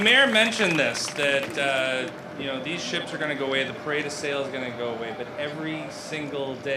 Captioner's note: applause